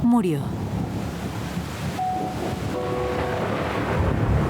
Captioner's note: thunderstorm noises; sad music playing